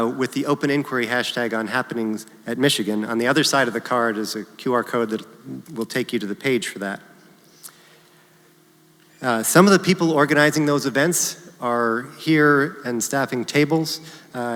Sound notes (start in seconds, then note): none